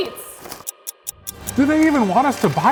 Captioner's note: clock ticking